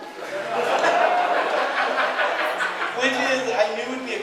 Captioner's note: audience laughing